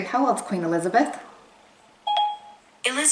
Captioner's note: ding